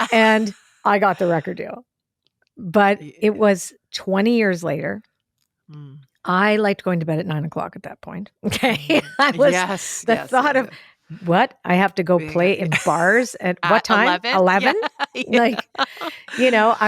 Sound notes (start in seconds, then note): 8.7 laughs; 15.1 laughs